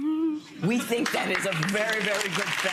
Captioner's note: crowd clapping